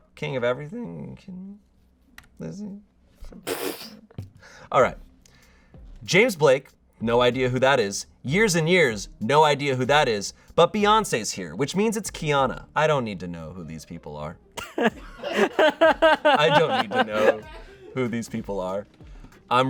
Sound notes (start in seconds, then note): 3.3 laughs; 15.1 audience laughing